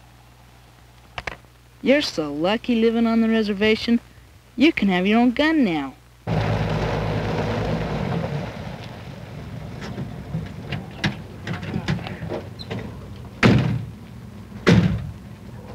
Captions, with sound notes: You're so lucky living on the reservation. You can have your own gun now. [Vehicle approaches] [Door slams]